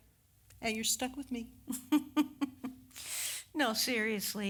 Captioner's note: giggle